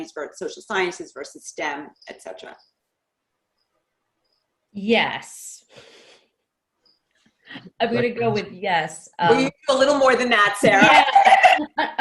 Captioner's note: laughs